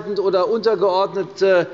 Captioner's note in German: none